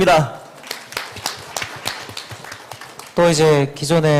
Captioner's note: claps